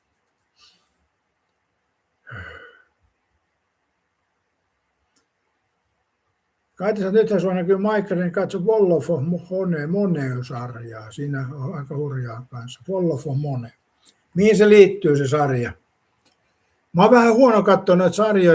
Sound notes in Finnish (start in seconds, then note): 2.2 huokaus